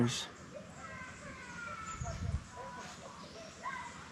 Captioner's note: child crying